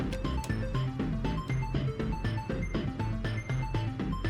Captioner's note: erratic beeping